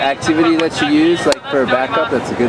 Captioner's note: laughing